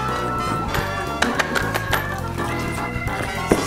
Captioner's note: coins chinking